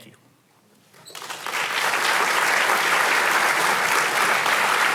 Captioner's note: audience applauding